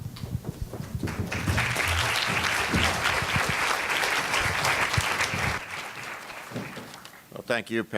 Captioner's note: applause